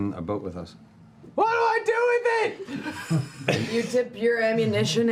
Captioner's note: shouting